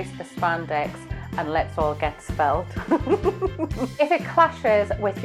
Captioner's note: giggles